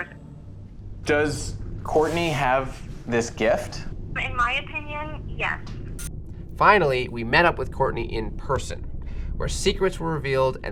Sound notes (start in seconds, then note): 4.4 woman on Phone